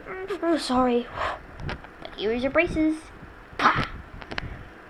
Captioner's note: spits